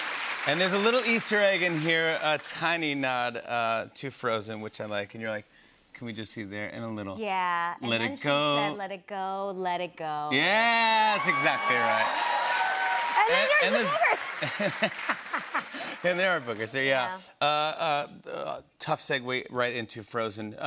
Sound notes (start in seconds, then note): 10.4 cheers and applause; 14.2 laughter